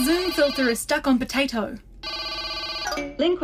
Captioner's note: A tone continues to ring out